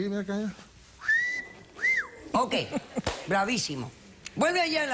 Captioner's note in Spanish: Silbido